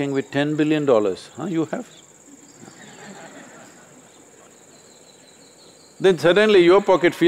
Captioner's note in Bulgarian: Смях